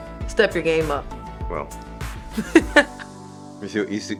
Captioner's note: laughing